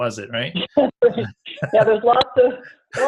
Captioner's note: laughs